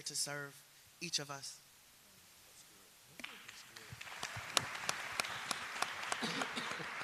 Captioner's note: applause